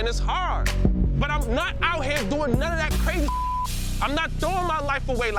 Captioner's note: beeps